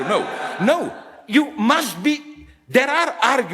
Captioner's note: audience laughs